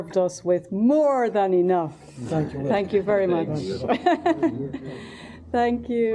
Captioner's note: laughter